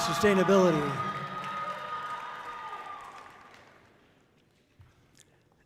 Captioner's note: audience cheering loudly